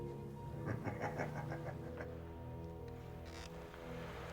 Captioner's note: Becker laughing